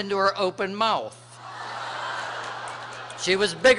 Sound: laughter

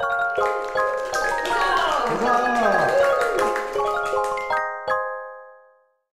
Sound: upbeat music; audience clapping; audience cheering

